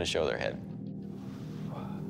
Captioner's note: exhales